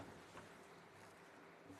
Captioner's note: speaking French